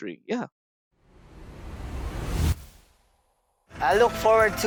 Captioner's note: whooshing